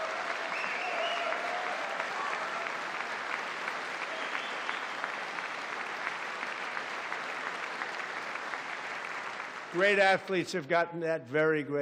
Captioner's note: applause